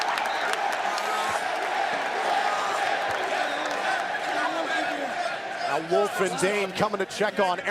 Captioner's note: crowd cheering